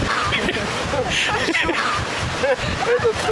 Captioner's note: laughter around